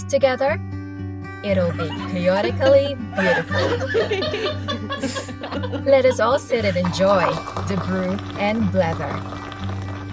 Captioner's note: laughter